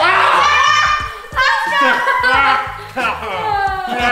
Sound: all laughing; yelling

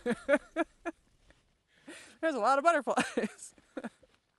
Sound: laughter

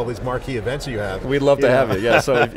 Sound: laughs

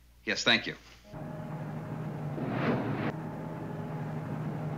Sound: whirring

